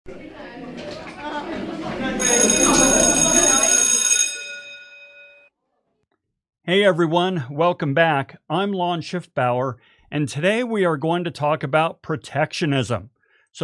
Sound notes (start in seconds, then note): 0.0 students chattering; 2.1 bell rings